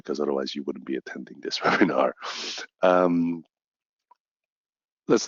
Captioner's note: laughs